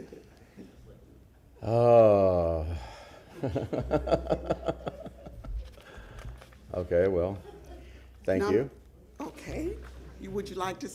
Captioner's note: laughter